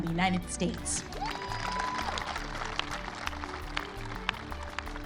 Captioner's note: crowd cheers